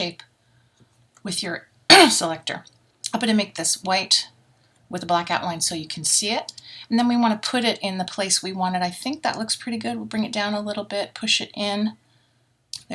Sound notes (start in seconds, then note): 1.9 cough